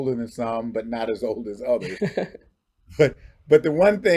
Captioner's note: chuckles